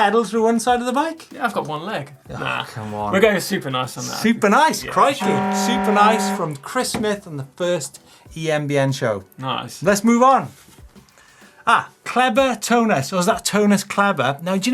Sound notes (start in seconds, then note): 5.1 buzzer